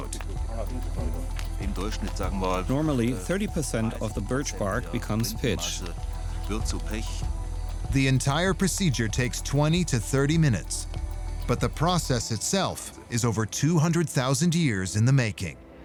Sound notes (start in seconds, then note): 0.3 speaking in German; 2.6 voice-over